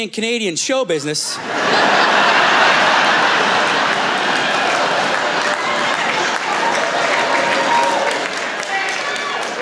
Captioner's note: cheering